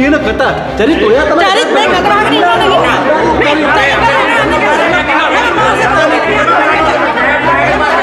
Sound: everyone arguing with each other

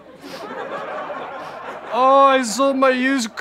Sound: sniffs

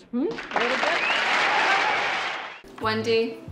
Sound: audience applauding

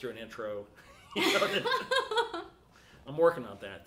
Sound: both laughing

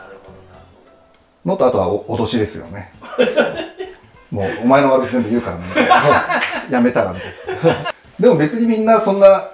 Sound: laughing

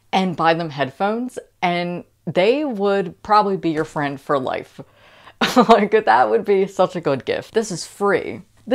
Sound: laughing

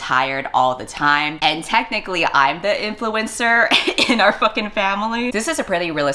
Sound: laughs

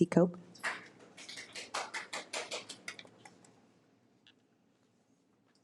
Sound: audience applause

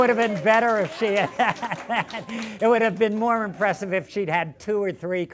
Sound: laughter

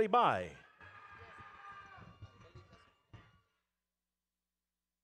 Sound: audience cheering

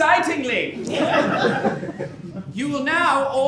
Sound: laughs

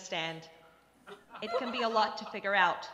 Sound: crowd laughs

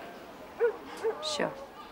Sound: dog barking in distance

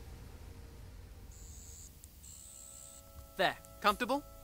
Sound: sonic buzzing

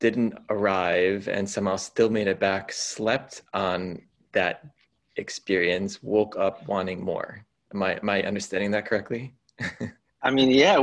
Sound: laugh

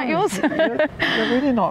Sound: laughs

